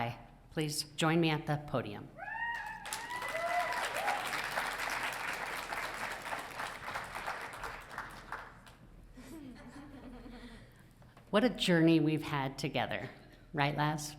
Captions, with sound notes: please join me at the podium. (audience cheering) What a journey we've had together. Right, Laz?